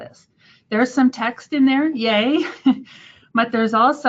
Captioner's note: chuckles